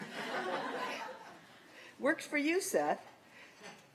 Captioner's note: laughter